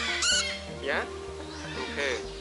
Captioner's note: birds chirp